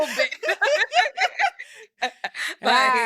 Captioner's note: laughing